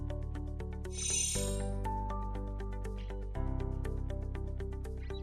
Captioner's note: chimes tinkling